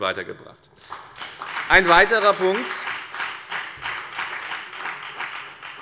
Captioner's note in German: Beifall bei der FDP und bei Abgeordneten der SPD